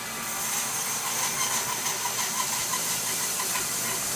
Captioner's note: saw buzzing